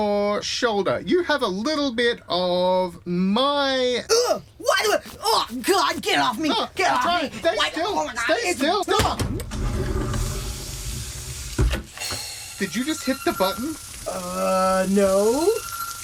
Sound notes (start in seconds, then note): 4.0 Dusty YELPS